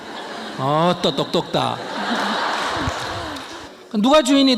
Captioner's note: audience Laughter